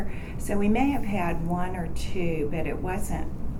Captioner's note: none